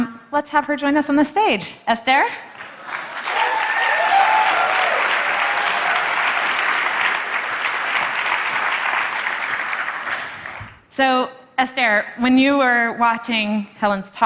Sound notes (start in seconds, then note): 2.5 Applause; 2.5 掌聲